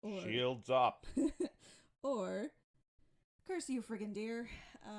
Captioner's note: laughs